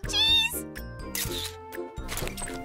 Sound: camera shutter noises

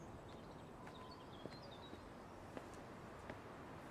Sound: birds sing in distance

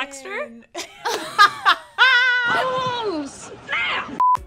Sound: laughing

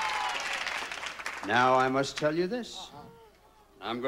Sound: audience applauding

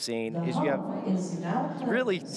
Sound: loudspeaker blaring

